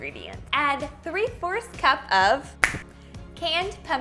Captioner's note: finger snap